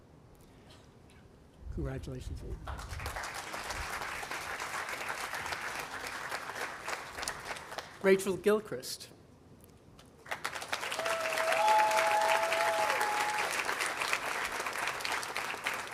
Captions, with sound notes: Congratulations. (audience applauding) Rachel Gilchrist. (audience applauding)